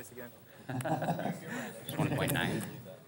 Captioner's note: laughs